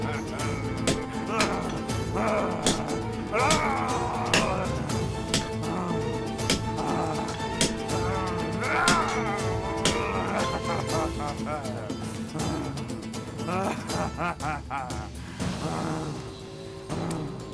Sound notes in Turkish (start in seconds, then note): 1.1 Noyan haykırma sesi; 5.7 Çivi çakma sesi; 15.5 İnleme sesi